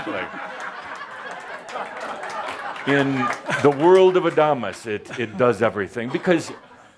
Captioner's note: much laughter and some applause